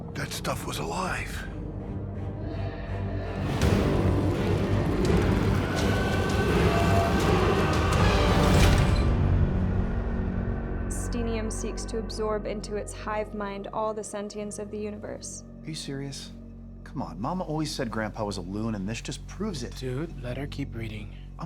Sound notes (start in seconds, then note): 3.7 dramatic music continues; 6.7 people screaming